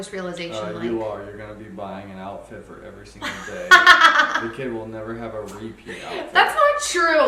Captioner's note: laughter